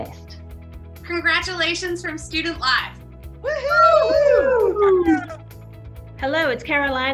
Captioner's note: group cheering